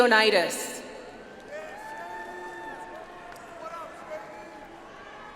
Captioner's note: audience applauds